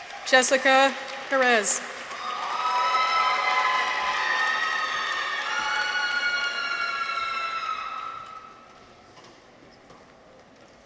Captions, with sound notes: Jessica Perez. -(people cheer) -(audience applauds)